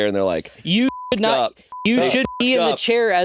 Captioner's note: beeping